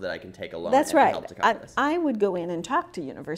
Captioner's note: voiceover